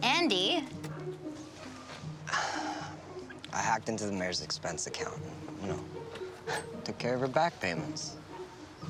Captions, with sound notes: Andy. (sighs) I hacked into the mayor's expense account - and, you know... - (knocking) took care of her back payments.